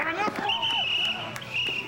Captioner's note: blows whistle